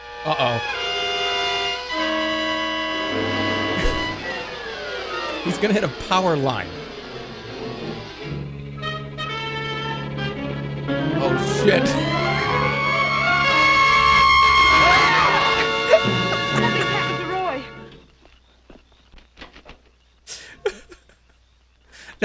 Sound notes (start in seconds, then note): 11.6 laughs; 13.7 bat shrieks; 15.8 laughs; 20.2 chuckles